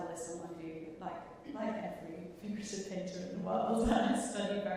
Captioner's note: chuckling